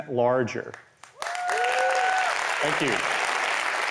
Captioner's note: applause